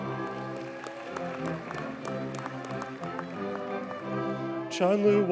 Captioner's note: audience cheers and applauds